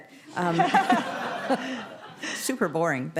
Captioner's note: laughter